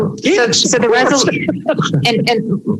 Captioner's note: laughter